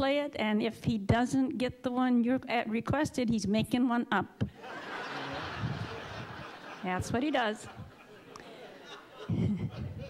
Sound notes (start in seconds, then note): 4.6 audience laughing